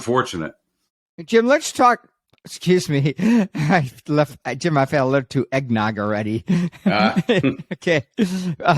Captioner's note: chuckles; laughs